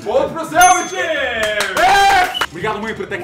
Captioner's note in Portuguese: Palmas e Gritos|